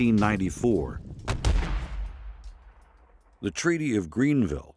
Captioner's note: gunshot bangs